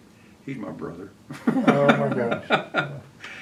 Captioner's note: laughs